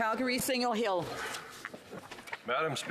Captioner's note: speaking French